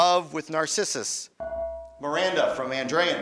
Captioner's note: beeping